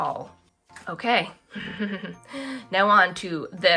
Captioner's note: giddy laugh